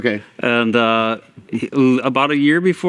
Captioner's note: laughing